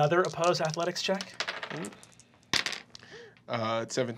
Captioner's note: dice clacking